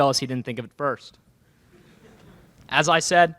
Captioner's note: laughter in crowd